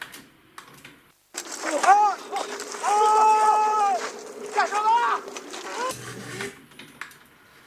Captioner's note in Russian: крики